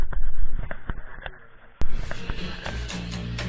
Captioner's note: scratching